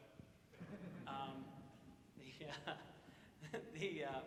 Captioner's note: audience laughs